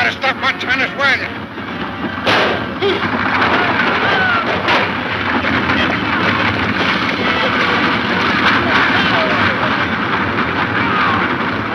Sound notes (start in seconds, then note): 2.2 shot fires